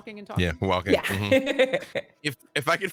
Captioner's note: laughs